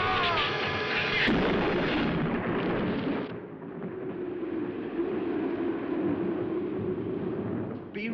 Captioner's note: thunder